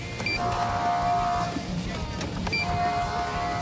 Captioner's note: horn blaring